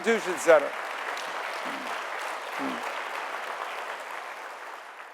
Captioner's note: audience applauding